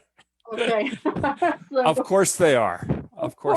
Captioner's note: laughs; chuckles